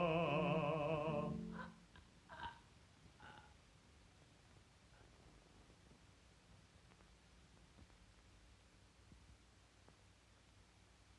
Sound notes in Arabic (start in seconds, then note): 3.2 صوت شهقة